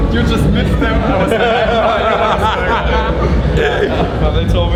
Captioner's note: laughing